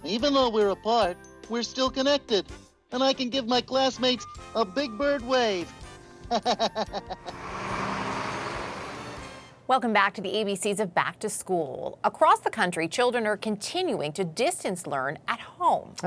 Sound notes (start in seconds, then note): 6.3 laughs; 7.2 bus engine